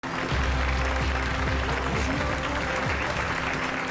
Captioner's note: crowd cheering